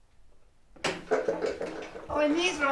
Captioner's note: door opens